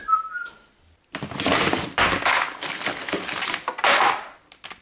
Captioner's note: crinkling